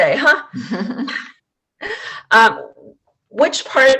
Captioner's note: laughs